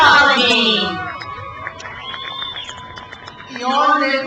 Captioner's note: crowd cheers